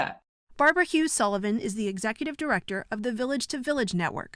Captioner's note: voice-over